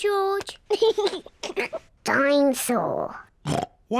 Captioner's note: laughs; oinks